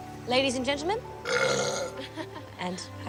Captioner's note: belches